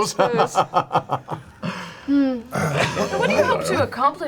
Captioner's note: hearty laugh